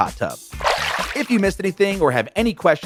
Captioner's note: water splashes